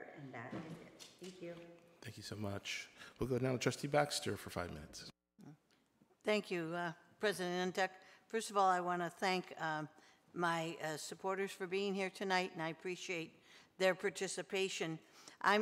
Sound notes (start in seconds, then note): none